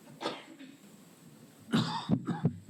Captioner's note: cough